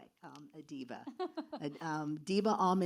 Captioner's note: laughs